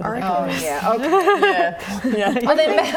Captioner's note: laughing